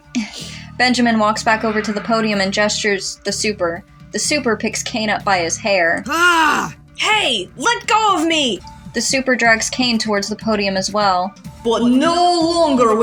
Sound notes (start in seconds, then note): 6.0 Caine Groans